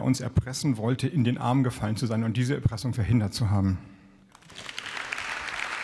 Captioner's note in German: Beifall